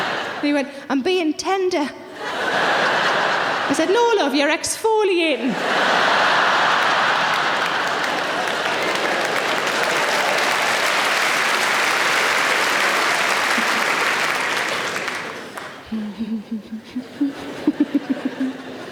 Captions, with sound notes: And he went, "I'm being tender." I said, "No, love. You're exfoliating." (audience laughing) (audience clapping)